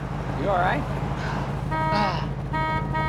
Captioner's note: horn honking